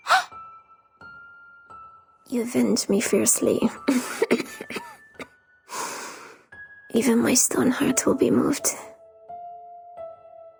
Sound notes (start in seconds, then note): 3.9 cough